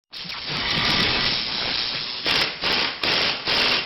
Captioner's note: drilling sounds